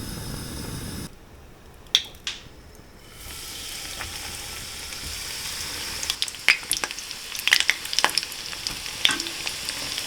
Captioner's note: frying in oil